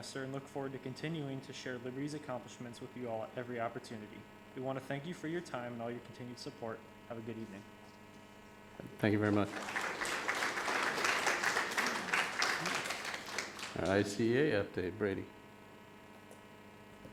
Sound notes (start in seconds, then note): 9.0 audience applauding